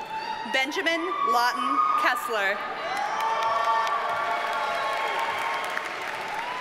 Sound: audience cheers and applauds

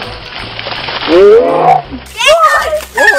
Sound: soft music; water splashing; slow motion screaming

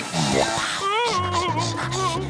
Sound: whimpering

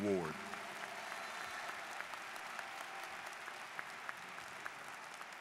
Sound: students applauding

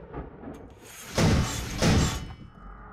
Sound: bang

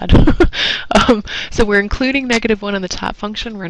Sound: laugh

